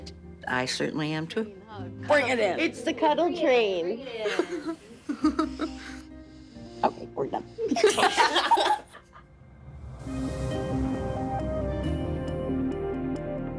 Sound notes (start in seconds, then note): 7.7 everyone laughing; 9.0 dramatic music